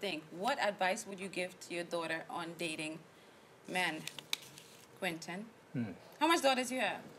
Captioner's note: hmm